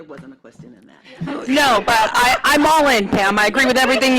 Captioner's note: laughter